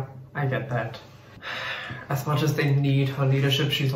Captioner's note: sighs